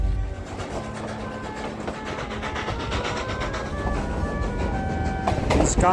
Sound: train running

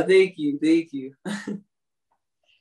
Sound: laughs

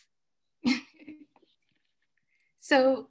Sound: laughs

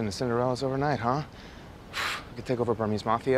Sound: exhales

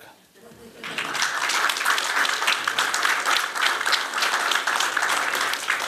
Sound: applause

